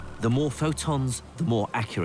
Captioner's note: voiceover